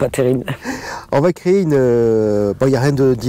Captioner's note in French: rire